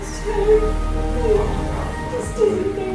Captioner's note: more sobbing sounds